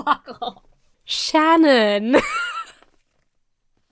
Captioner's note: laughs